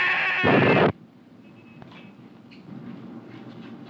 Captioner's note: boom